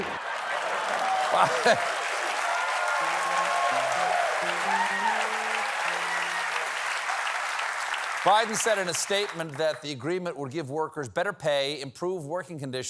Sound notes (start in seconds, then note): 0.0 cheers and applause